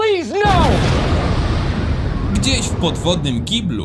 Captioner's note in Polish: boom!